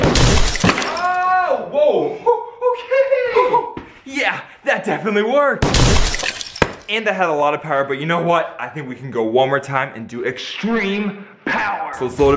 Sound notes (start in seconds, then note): 0.0 gunshot and crashing; 5.6 gunshot and crashing